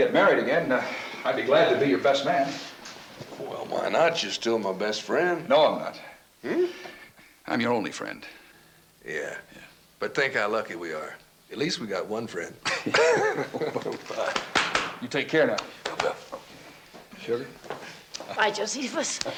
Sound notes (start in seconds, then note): 12.6 Charlie chuckles; 12.6 Joe chuckles